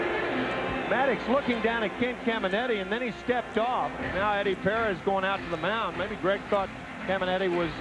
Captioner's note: crowd booing